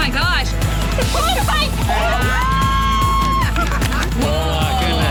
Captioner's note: all cheering